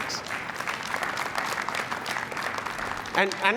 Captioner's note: applause